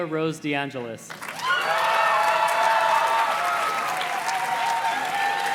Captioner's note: audience cheers and claps